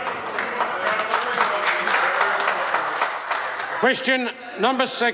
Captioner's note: members applaud